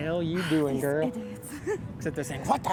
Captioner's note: scoffing